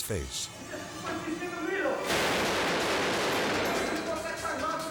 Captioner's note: gunman speaking French